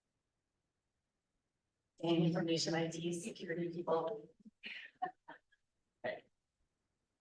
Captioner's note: laughter